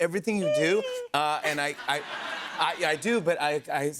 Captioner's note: laughter